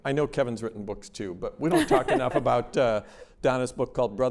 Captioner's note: laughter